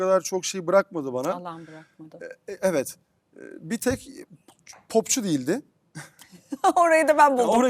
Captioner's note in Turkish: kahkaha